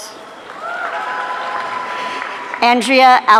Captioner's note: audience cheering